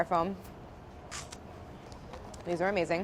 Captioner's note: crunching